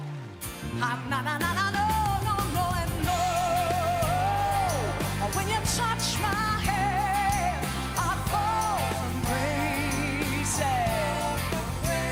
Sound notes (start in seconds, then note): 0.0 applause